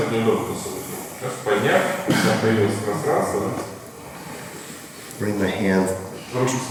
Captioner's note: speaking in a foreign language